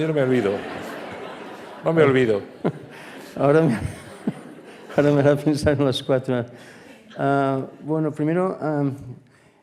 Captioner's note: laughs